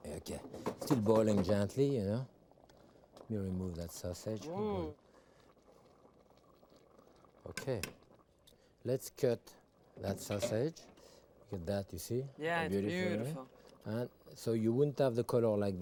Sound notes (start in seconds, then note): 8.0 spoon tapping